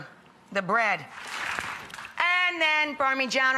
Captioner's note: audience applauds